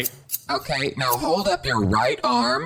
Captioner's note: SFX: The sound of scissors snipping at hair